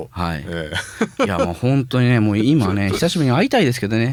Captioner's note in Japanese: 笑い